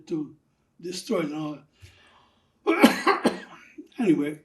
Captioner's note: coughing